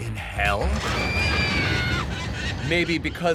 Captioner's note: screaming